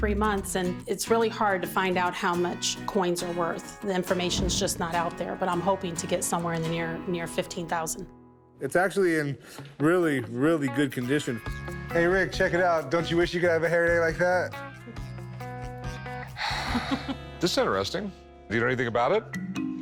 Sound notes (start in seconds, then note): 16.3 sighs